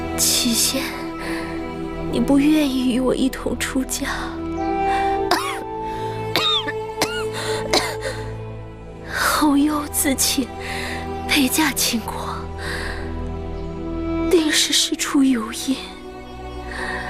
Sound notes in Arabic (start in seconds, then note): 6.2 سعال